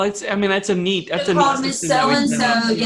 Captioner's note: faintly speaking